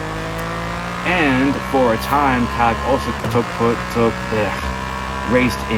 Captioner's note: stumbles for words